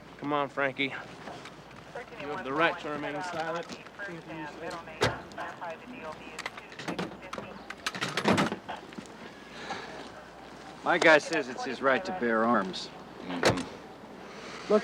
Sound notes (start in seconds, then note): none